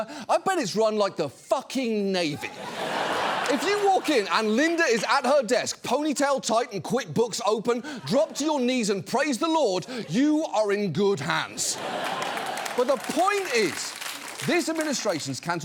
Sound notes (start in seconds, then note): 2.3 studio audience laughs; 11.6 studio audience laughs, applauds